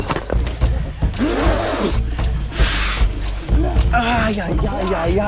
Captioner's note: blows sharply